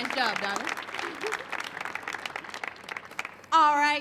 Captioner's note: laughs